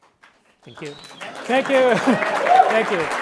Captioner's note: audience members applaud; audience member applauds